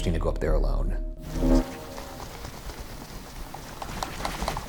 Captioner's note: Ovilus banging